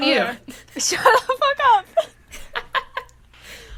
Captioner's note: laughing; quiet laughter